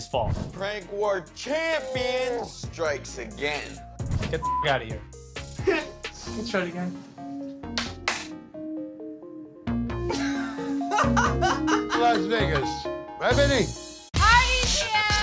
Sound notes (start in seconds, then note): 4.3 beep; 7.7 claps; 10.1 laughing